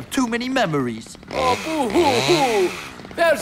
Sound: chainsaw whirrs

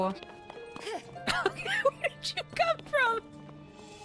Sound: while Laughing

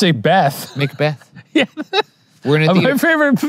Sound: laughing

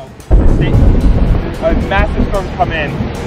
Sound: thunder booming

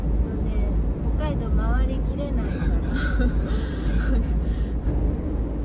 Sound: haha

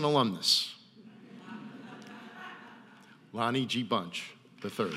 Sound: audience laughing

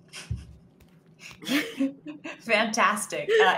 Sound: laughs

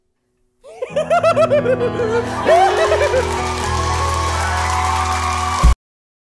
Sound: giggling

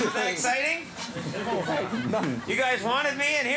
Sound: men chattering

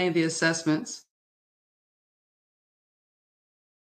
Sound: audio cuts out

